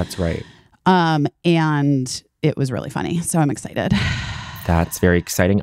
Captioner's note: sighing